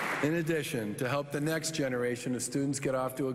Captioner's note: applause